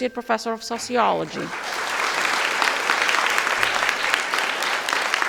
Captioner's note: audience applauding